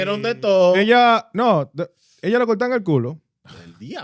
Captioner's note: speaking Foreign Language